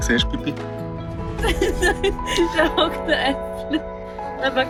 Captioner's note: laughs